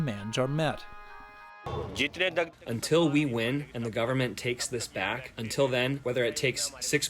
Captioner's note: through translator